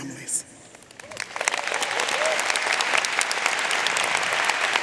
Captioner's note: audience applauding